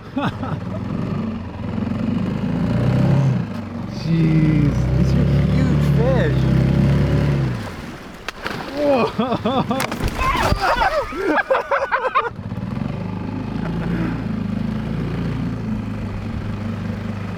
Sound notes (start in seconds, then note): 0.0 laughs; 8.4 fish splashes; 8.7 guys laugh; 8.7 laughs; 9.9 fishes splash